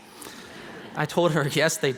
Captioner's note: laughing